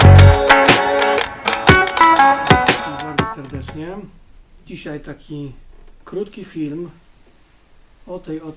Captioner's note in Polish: Aplauz